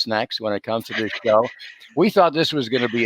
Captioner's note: giggles